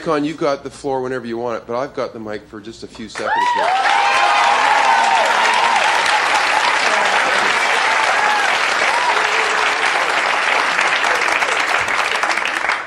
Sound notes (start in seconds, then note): 3.5 audience applauding